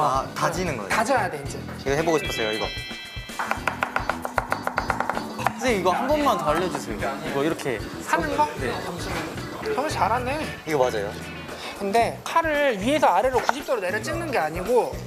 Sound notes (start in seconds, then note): 3.4 cutting vegetables with sound